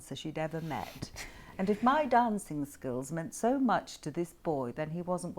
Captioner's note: Harry laughs